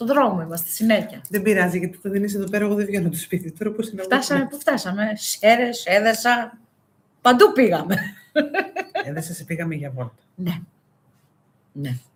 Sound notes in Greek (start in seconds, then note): 7.9 γέλια